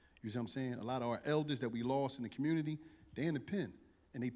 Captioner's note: none